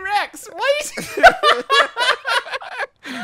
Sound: laughing

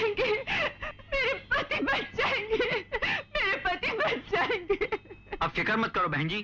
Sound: sobbing

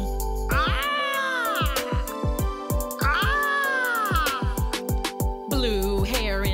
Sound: aaaaaah Aaaaaah

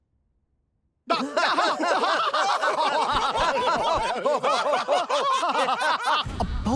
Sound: laughing

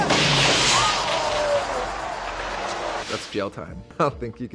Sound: crowd gasps

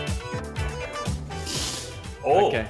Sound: upbeat music; velcro separating

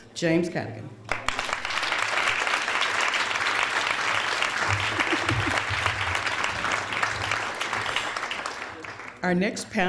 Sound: applause

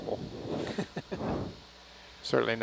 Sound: man 3 laughing

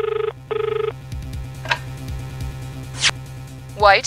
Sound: phone ringing; click

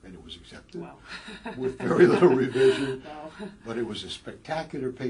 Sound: laugh

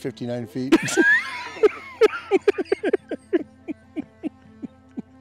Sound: laughing

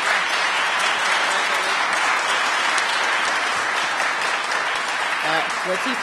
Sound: applause

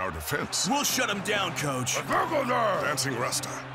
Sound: speaking Brislovian

